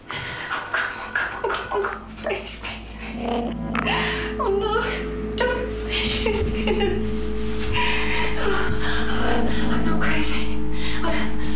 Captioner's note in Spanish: solloza